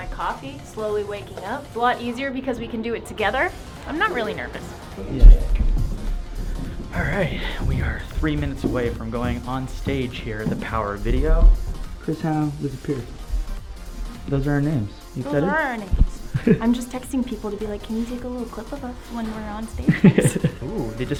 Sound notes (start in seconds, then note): 5.4 footsteps; 16.0 laughs